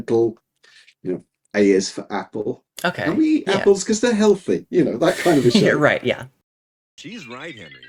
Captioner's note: laughing